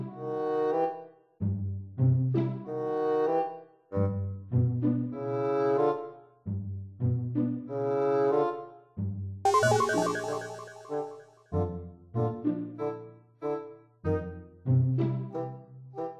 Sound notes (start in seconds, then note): 9.4 gastersound